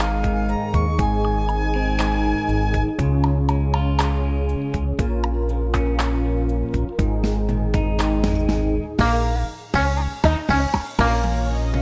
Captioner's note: clap